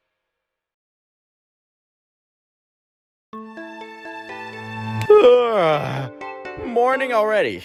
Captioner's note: yawning